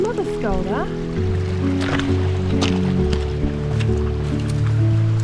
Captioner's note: water running